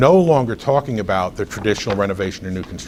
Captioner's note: rustles papers